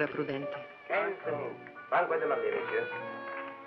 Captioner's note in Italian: lingua francese